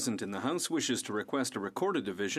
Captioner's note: speaking French